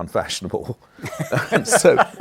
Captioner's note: laughter